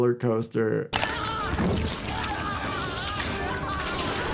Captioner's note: man screaming